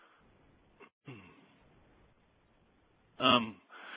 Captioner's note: clears throat